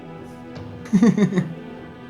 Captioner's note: laughs